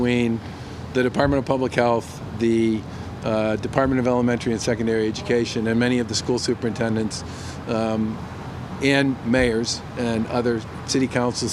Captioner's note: off microphone